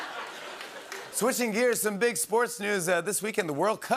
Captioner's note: normal voice